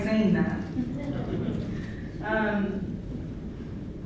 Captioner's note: laughter